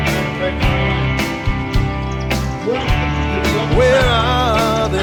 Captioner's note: people chattering